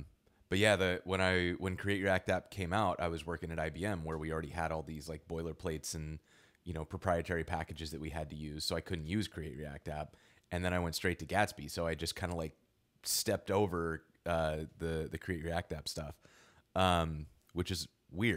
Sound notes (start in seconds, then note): none